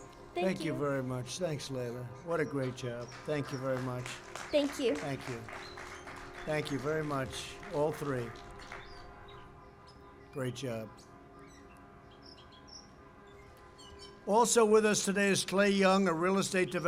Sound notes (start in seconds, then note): 7.3 applause